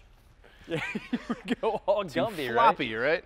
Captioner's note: laughing